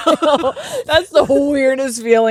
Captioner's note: both laughing